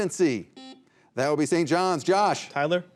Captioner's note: buzzer beeping